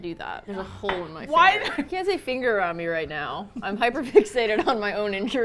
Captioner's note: sighs; laughing; laughs